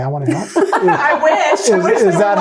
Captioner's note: laughing